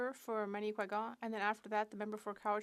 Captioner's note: speaking French